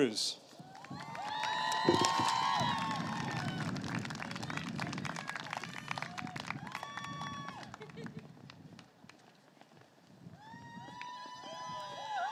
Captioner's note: applause